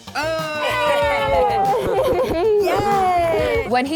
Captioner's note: everyone laughing